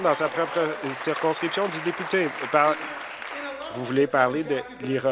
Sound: applause

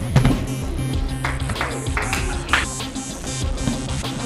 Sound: clapping

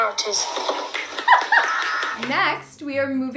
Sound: clapping; laughter

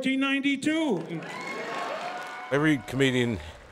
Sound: cheering

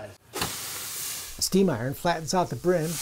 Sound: sizzling

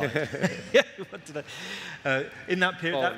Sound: laughing

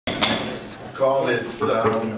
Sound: gavel banging

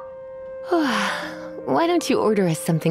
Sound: yawn

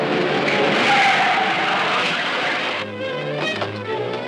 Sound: brakes squealing

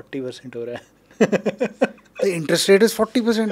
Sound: laughing

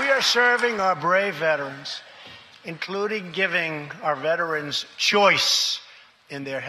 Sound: applause

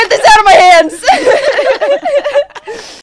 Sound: everyone laughs

